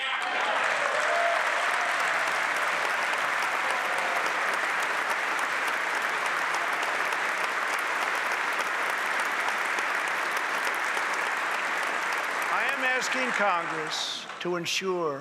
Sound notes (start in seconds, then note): 2.1 applause